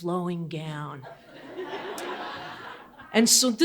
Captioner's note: audience laughing